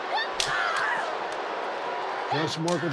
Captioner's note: sticks cracking